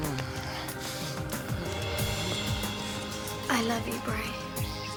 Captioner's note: groaning